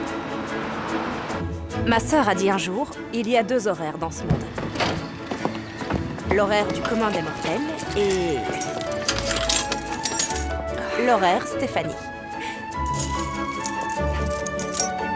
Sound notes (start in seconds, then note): 12.4 sighs, chuckles